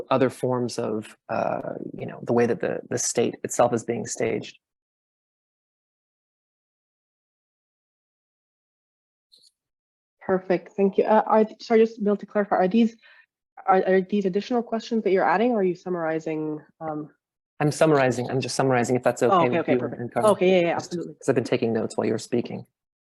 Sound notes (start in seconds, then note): 4.7 pause